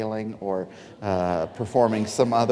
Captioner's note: audience laughing